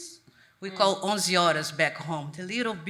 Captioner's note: speaks a foreign language